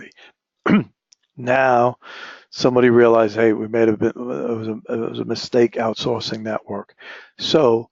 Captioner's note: cough